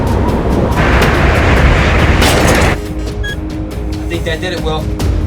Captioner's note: whack